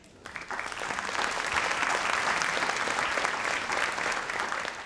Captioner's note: audience applauds